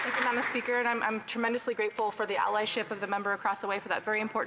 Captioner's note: some Applause